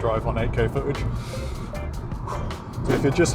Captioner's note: deep breath